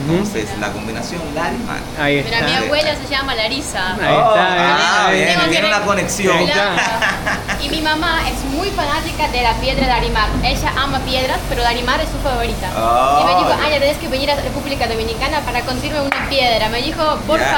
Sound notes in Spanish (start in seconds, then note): 6.6 risas